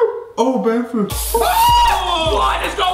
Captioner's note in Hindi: चिल्लाना